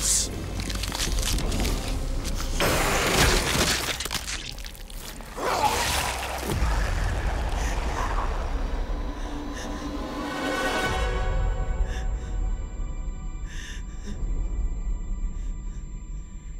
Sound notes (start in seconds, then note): 0.3 bones crunching; 2.3 clattering; 3.2 guts splattering; 5.3 Luther roars; 8.4 suspenseful music; 11.4 high pitched ringing; 11.4 heavy breathing